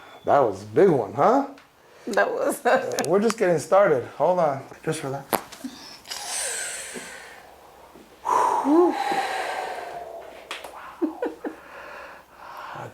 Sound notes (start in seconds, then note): 0.0 speaks in a foreign language; 5.2 spine cracks